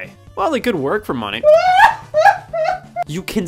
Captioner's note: laughs